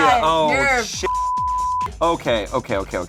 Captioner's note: beep